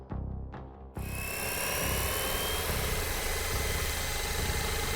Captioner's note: drone whirring